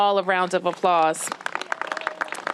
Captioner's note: applause